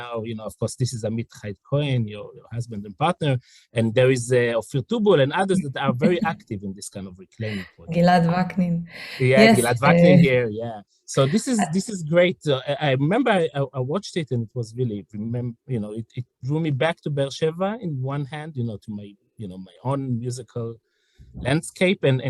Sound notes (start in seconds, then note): 9.5 hebrew